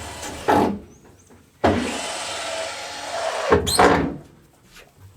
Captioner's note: drilling